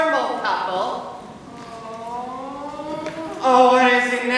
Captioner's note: moaning